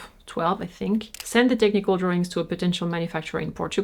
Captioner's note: camera shutter clicks